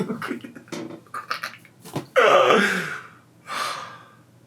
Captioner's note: snickering